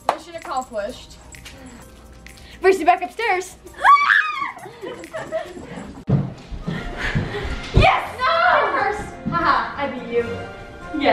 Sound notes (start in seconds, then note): 3.7 crying out and laughing